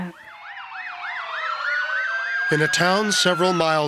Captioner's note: sirens blare